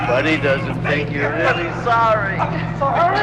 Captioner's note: chuckles